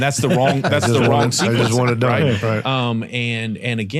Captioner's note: group laughing